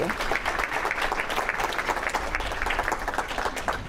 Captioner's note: audience clapping